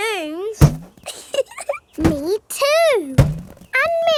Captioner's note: chuckles